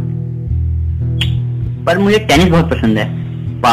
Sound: tch

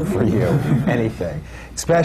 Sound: laughter

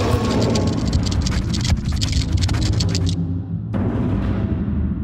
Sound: Papi grunts; scorpion growls and scurries

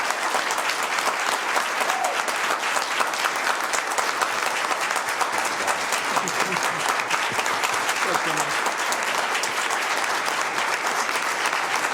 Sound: applause

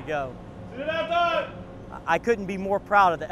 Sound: yelling

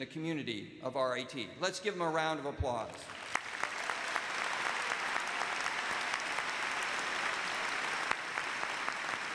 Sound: applause

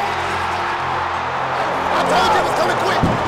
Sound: cheering

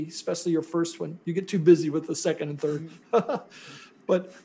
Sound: laughs

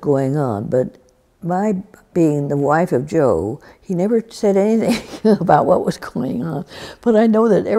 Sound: laughs

